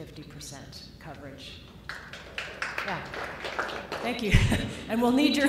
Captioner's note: applause